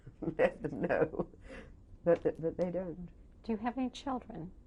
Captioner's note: laughs